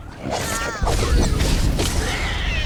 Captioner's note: explosion